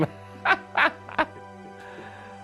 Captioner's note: laughs